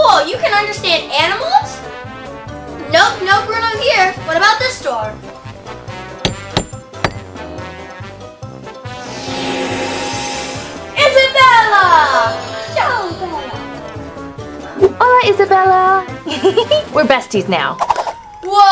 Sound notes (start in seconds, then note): 6.2 knocking noise